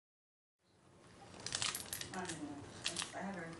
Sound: chips crunching

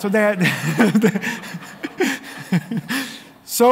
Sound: laughter

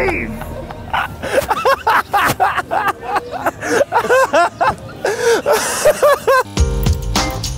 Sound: laughing

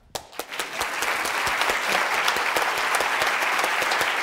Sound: applause

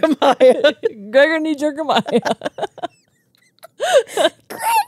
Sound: laugh

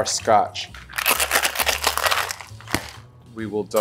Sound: ice clattering

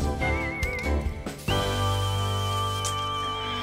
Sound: spraying

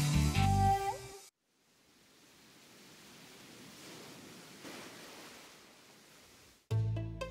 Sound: sound ocean waves

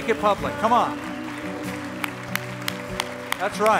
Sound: applause

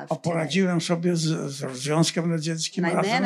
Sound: foreign language

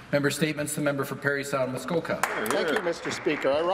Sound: some Applause

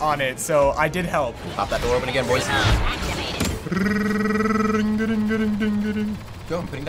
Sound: imitating laser gun fire

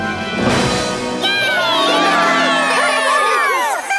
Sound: cheering

